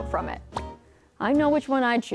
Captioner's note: text popping